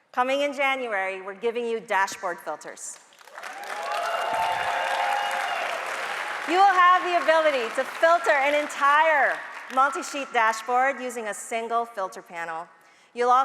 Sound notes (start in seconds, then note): 3.2 audience cheering and applauding